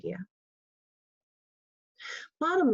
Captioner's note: pause